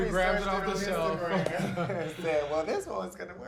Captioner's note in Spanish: ambos ríen